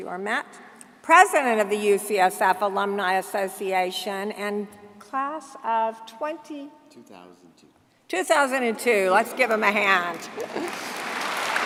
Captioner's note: applause